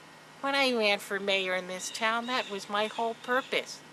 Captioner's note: none